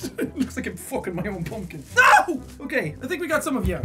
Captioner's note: screams